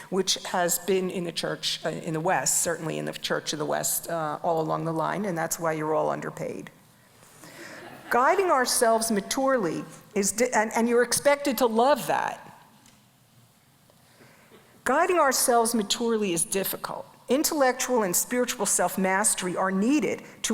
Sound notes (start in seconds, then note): 7.7 audience laughs